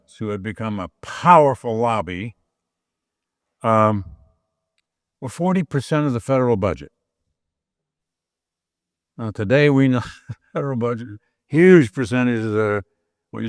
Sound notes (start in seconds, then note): 10.0 laughs